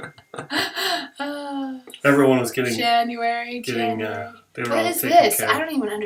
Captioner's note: laughter